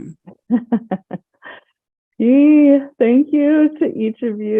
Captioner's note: chuckles